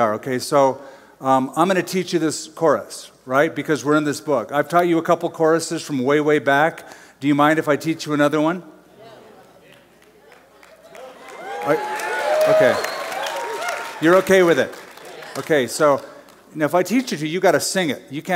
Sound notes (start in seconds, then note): 10.6 cheers; 11.5 applause